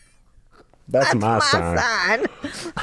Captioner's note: both laugh